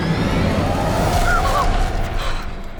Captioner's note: gasps; both chuckle